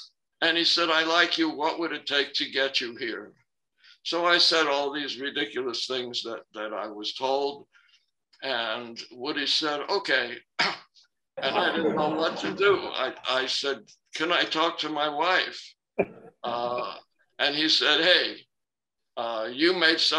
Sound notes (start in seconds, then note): 11.4 laughter